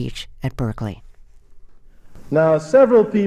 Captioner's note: soundbite of archived recording